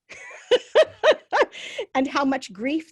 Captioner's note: laughs